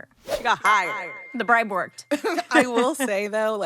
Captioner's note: laughs